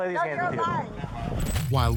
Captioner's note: radio chatter